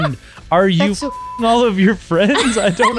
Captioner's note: laughing; beep